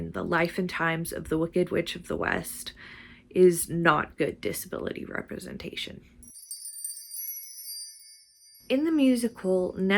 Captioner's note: sparkle noise